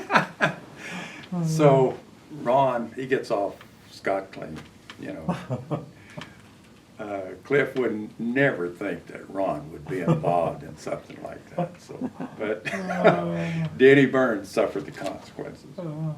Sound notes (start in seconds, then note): 4.2 laughs